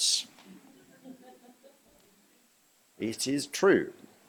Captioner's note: laughter